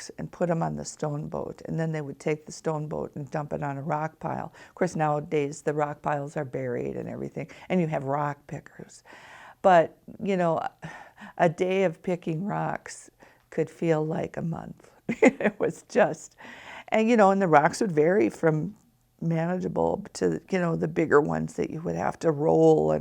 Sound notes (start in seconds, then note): 15.1 chuckles